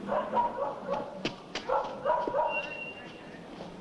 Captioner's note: dog barking